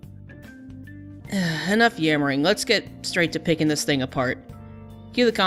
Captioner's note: sigh